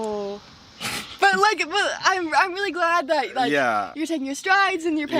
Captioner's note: laughs